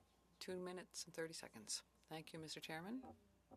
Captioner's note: speaking French